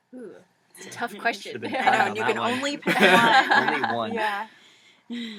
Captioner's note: laugh